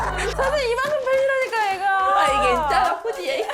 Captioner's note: face hurts from laughing sound effect